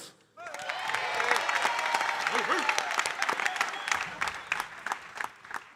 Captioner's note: audience cheering and applauding